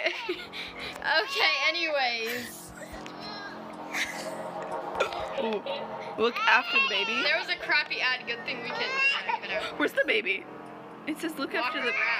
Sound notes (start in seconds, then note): 2.6 baby crying sounds from the game; 9.7 gasp